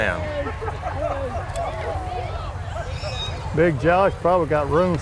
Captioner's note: revving and chattering continue